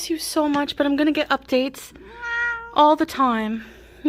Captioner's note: cat meows